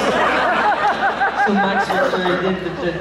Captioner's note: laughs